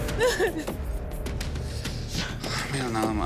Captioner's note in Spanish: Sollozos